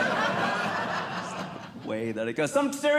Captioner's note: audience Laughing